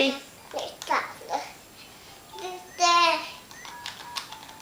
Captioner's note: toddler babble